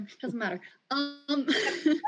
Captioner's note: laugh